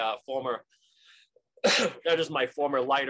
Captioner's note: coughing